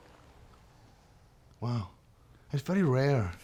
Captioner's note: scottish accent